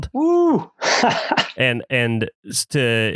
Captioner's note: laughs